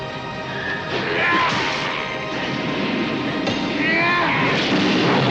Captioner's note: Marsh screams; crash